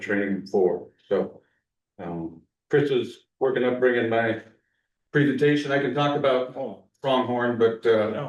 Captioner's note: clears throat